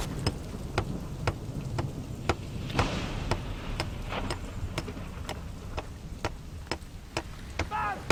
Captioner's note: clanking sound